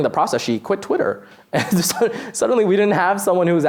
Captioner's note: laughs